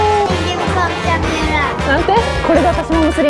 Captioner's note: child talking